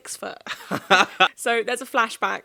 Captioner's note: laughing